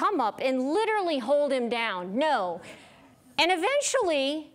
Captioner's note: none